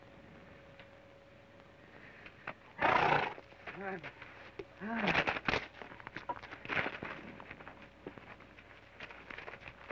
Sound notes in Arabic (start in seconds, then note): 2.7 يصدر صوت شخير من الحصان; 3.0 يشخر جوشوا